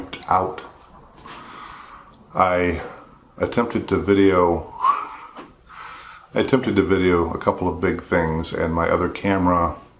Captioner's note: laugh